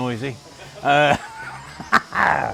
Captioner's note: laughing